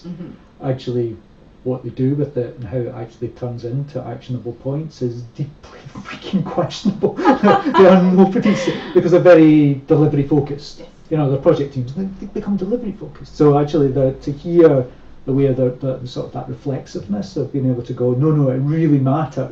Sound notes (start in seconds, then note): 5.7 laughs